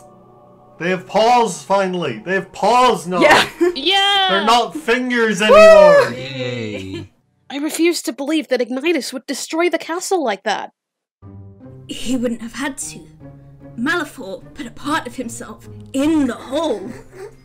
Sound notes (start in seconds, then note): 5.4 cheering; 16.5 laughter